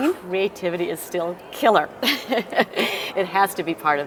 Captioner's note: laugh